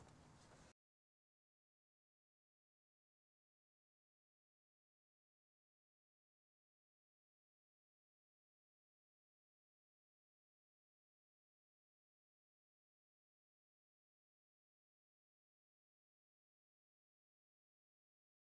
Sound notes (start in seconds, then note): 2.4 silence